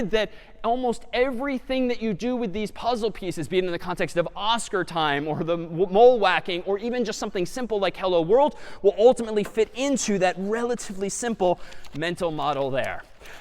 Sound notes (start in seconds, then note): none